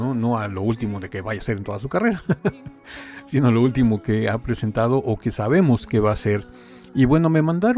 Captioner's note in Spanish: risas